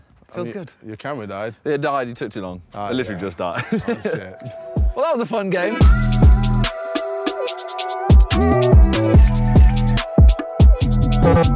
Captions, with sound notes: it feels good. - Your camera died. - It died, you took too long. It literally just died. (laughs) Well, that was a fun game. (upbeat trap music)